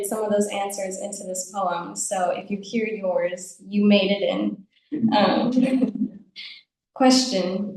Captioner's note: audience laughs